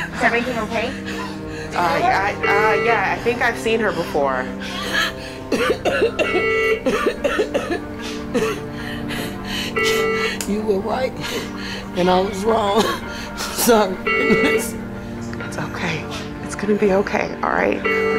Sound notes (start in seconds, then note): 4.6 patient coughing